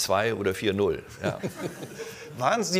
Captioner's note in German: Lachen